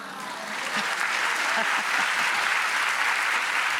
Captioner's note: applause